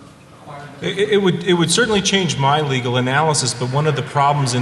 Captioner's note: off mic